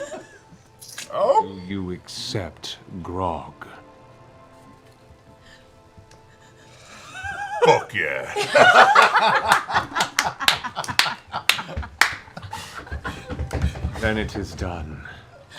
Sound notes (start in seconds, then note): 8.3 laughter